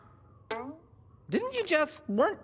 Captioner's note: bloop